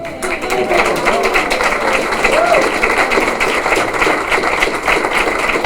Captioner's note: applause